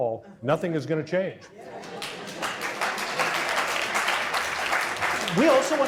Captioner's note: audience applause